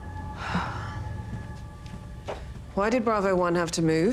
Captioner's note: Jill sighing